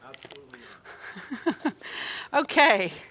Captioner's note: chuckling